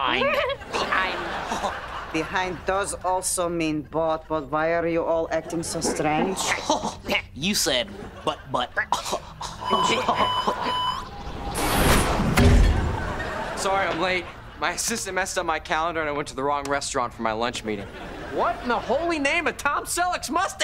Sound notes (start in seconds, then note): 0.2 chuckles; 7.8 chuckles; 9.6 alarm blaring